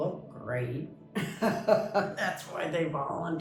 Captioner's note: laughs